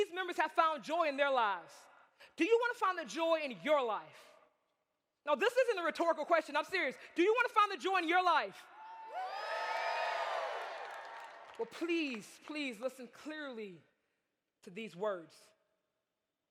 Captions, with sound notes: See, these members have found joy in their lives. Do you want to find the joy in your life? Now this isn't a rhetorical question. I'm serious. Do you want to find the joy in your life? (audience cheers) Well please, please, listen clearly to these words.